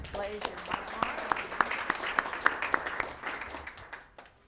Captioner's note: applauding